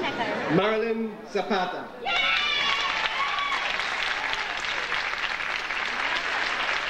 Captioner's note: audience applauding